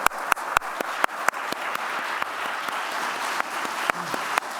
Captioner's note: applause